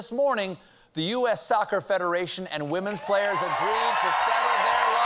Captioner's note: cheers and applause